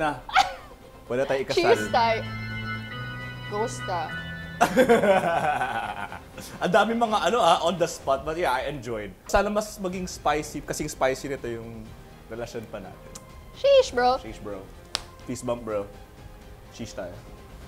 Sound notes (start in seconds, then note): 4.6 laughs